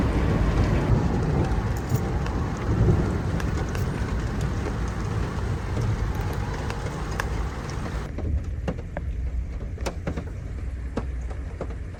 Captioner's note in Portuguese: Som de chuva